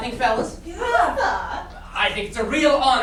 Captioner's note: sailors make confused noises